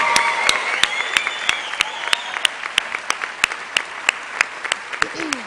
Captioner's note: cheers and applause